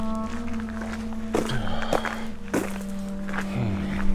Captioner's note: exhales in agony